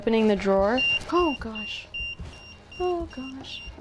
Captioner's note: EMF beeping